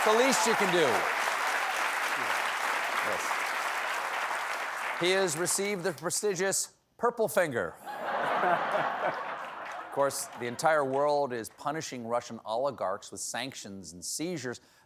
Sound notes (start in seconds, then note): 7.8 laughter